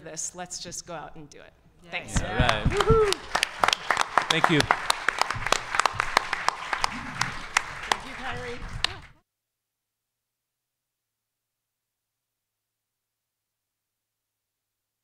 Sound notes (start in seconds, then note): 5.1 audience applause